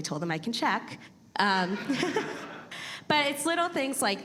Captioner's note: audience laughing